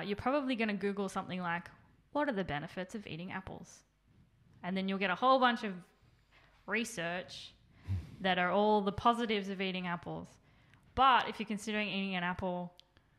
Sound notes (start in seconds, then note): none